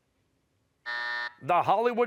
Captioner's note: buzzer